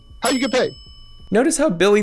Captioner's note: bell dinging